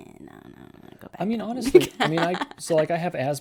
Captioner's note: laughs